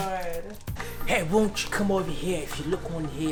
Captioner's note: British accent